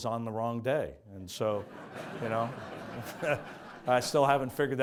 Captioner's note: audience laughs